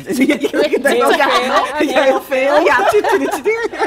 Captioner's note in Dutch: gelach